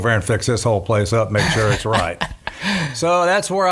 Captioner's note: laughing